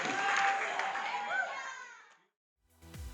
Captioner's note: cheering